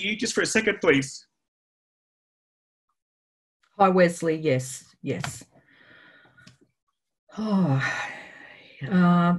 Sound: sighs

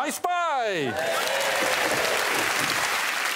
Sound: audience cheers and claps

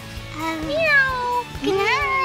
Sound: mom meowing

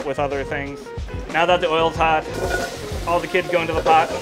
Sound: food sizzling

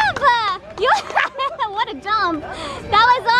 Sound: laughing

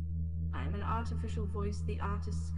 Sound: artificial Voice

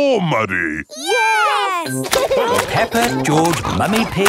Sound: laughing

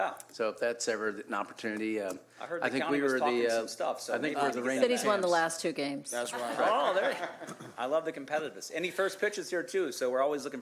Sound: laughter

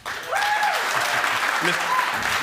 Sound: applause; cheering

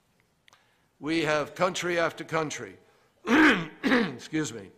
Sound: clears throat loudly

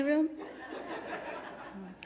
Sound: laughters

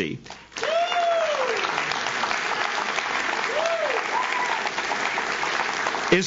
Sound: audience claps; audience cheers

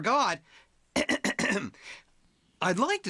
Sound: clearing throat

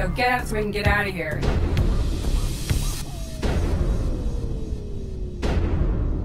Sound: thumping reverberating

